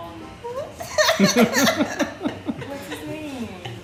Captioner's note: laughing